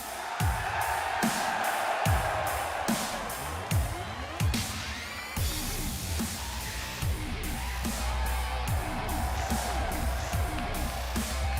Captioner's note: cheers & applause